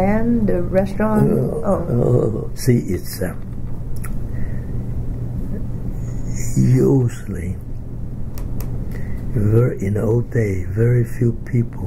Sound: coughs

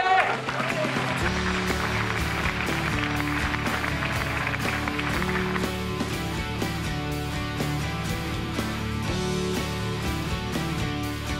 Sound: applause

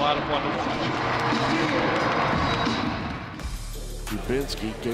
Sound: crowd cheering

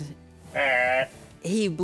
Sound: Blent bleating

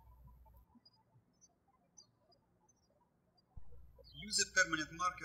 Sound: birds chirping

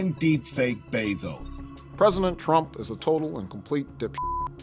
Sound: beep

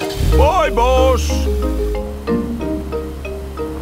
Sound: car engine starts

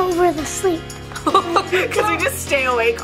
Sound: laughs

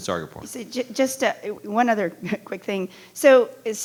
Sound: chuckles

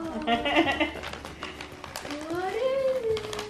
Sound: laughs

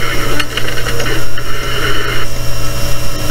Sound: click, Static

